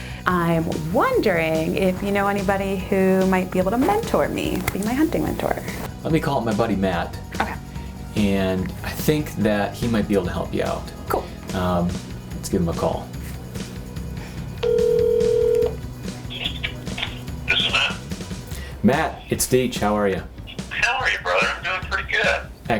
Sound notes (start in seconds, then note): 14.6 phone ringing; 16.2 sounds of phone being picked up; 16.9 voice on speaker phone